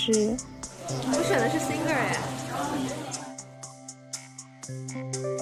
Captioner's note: sample 4: The sound of discussion after finishing the exam